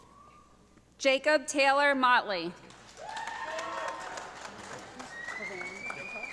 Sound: audience applauding

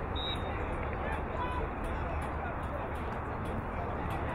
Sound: whistle blowing

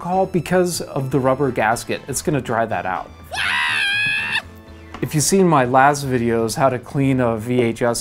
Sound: female scream

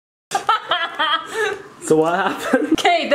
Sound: laughing

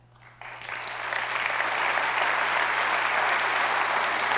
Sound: audience applauds

